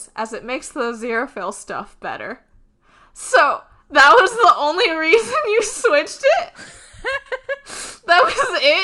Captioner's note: laughing